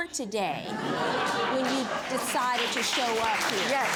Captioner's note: audience laughs